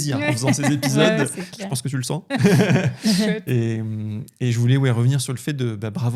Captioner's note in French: rires